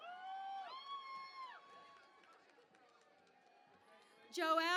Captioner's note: cheering and Applause